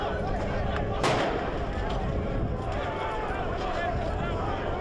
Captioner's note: firework exploding